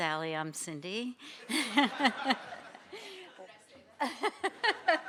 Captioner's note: laughter